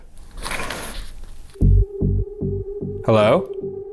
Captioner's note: object shuffling